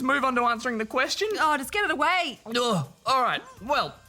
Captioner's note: groans